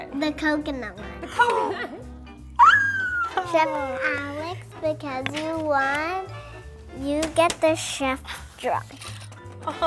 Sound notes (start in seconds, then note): 1.9 gasps and exclaims